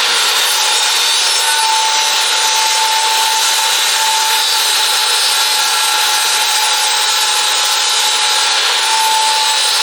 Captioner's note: electric saw whirls; electric saw grinds on the wood